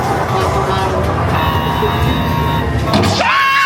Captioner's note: robust music; machine beeps; everybody screaming